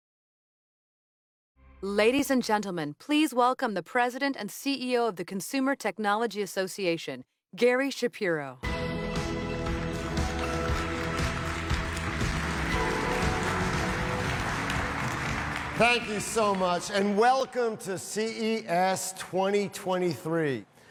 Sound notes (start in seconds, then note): 8.6 bright music; 9.2 audience applauding